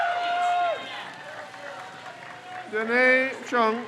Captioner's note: crowd cheers